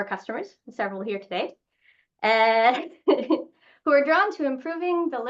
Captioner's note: laughs